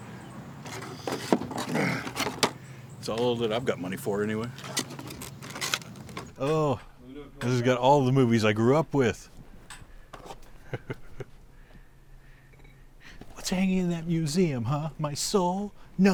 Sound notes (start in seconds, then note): 0.6 plastic scuffling; 1.6 grunts; 4.4 plastic squeaking; 10.3 box scuffs; 10.4 chuckling